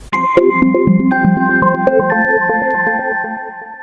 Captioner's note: bells chiming